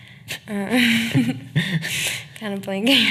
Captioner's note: laughing